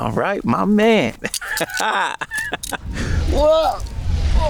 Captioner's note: laughing